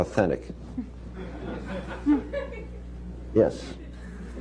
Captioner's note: laughter